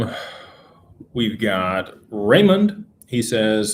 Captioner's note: sighs